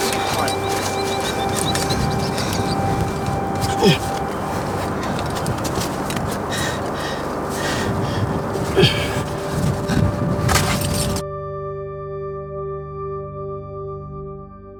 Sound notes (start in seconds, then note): 4.0 climber grunting; 4.0 gentle peaceful music